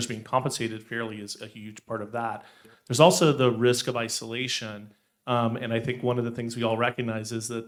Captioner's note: none